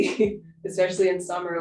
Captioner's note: laughing